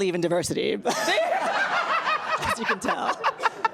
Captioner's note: laughs loudly